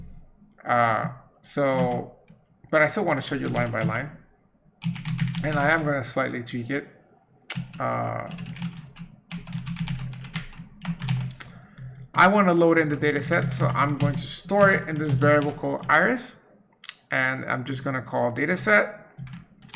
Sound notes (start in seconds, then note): 7.3 rapidly typing